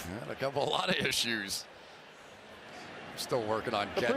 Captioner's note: cheers